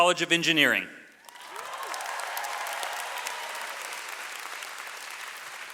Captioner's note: audience applauds